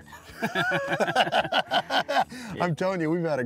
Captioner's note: chuckling